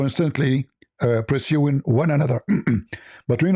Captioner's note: berdehem